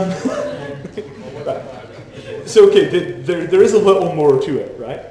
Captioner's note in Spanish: el público se ríe